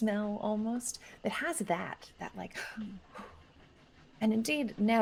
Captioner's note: gasps